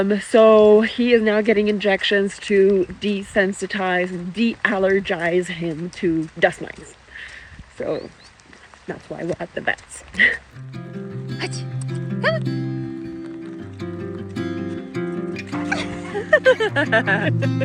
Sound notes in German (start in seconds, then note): 10.5 Energische Musik; 11.4 spricht in einer Fremdsprache; 15.4 lacht; 17.4 Energische Musik